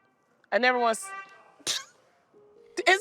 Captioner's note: honking continues; laughs